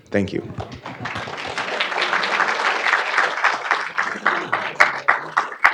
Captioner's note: audience applauding